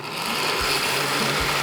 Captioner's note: whirring